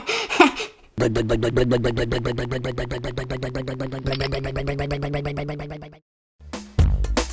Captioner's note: rumbling motor